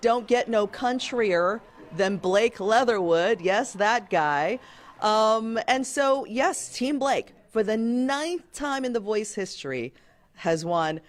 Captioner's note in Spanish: aplausos